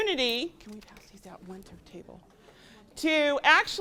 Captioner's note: whispers to presenter